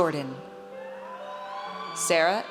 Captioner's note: audience cheers